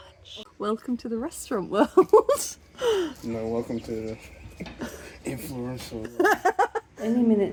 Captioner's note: laughing